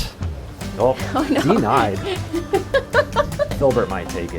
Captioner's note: laughs